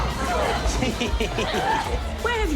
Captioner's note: chuckles